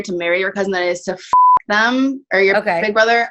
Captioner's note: beep